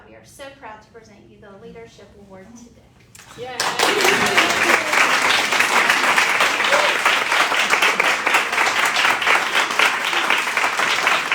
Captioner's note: cheering and applause